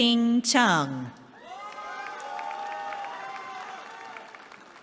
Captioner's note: cheering